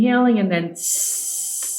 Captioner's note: exhales